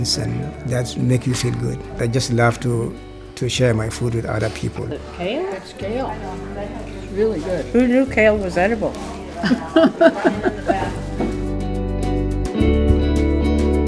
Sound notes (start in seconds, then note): 9.2 woman laughing; 11.2 gentle music